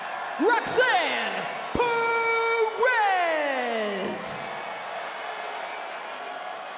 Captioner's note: crowd cheering